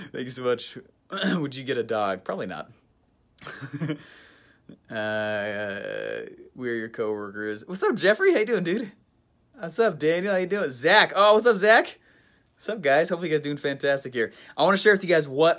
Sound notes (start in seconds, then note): 3.4 laughs